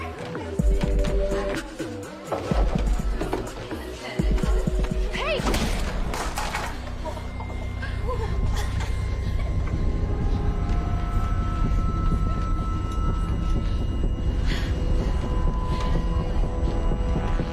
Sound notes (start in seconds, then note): 5.2 tray clatters; 7.7 laughter